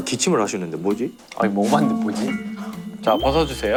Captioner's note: A not-so-confident tone